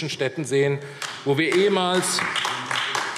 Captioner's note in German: Beifall AfD